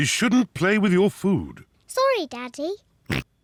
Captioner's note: oinks